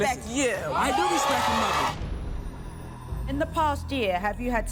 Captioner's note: crowd applauding